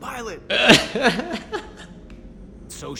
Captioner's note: laughs